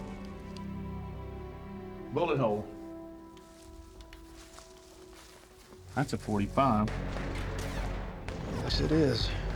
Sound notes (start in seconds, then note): 2.6 footsteps; 6.8 flashback, gunshots fired